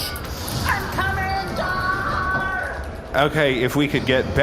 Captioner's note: Bargie's hatch opens